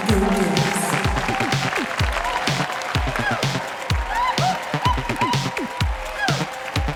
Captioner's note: audience applauding; audience cheering; energetic pop music